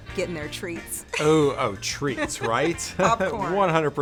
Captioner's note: laughs